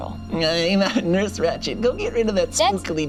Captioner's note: laughs